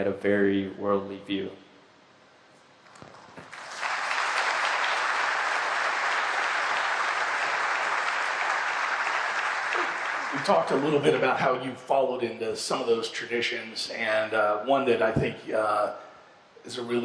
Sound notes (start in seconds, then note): 7.7 applause